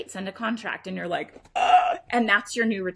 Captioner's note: gasps